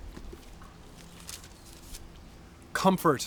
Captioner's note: paper rustles